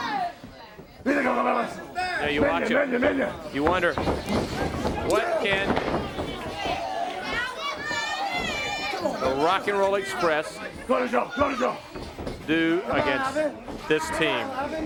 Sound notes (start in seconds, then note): 0.0 crowd chatter; 6.7 crowd chatter